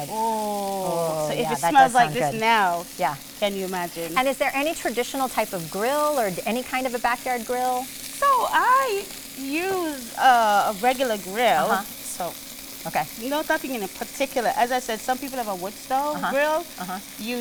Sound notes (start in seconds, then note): 7.8 chicken sizzles